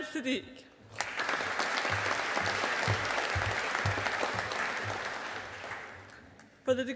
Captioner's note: audience applauding